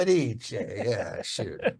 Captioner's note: speaking in foreign language; laughing; speaking in foreign language